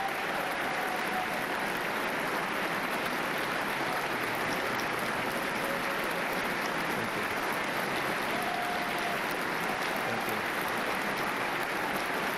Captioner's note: applause